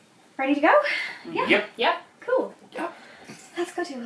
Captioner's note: chorus of Agreement